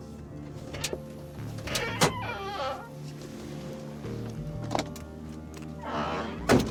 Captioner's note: dramatic music; vehicle rumbling